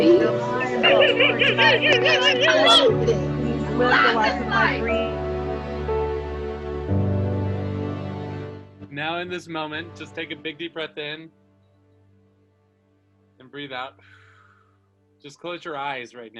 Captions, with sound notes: Now in this moment, just take a big deep breath in (inhales deeply) and breathe out. (exhales deeply) Just close your eyes right now,